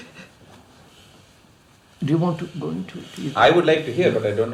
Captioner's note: laughs